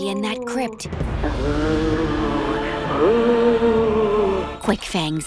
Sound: moaning

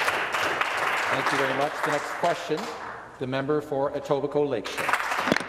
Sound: some Applause

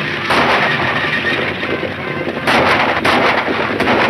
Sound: shots fire

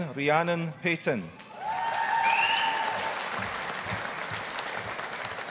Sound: audience applauding

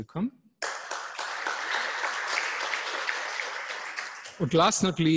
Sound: applause

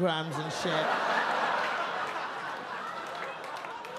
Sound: audience laugh

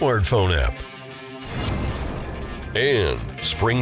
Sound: whooshing

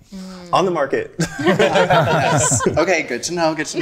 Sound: group laughing

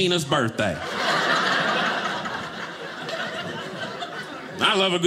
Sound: audience laughing

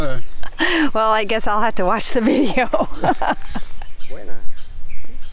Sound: laughs

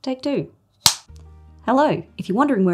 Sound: snapping

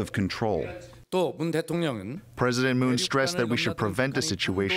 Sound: through translator

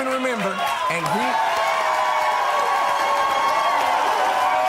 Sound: audience cheers

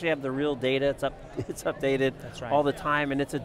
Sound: chuckles

